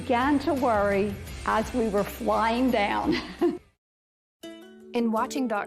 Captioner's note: chuckles